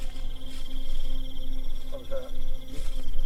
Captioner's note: crickets chirping; owl hooting